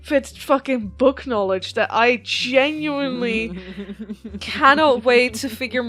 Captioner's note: laughs